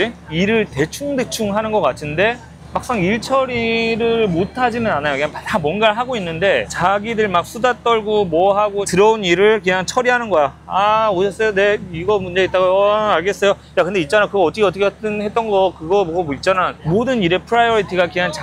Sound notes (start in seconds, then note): 14.2 chitchatting with co-workers